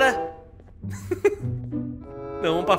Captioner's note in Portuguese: risos